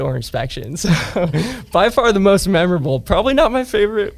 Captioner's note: laughs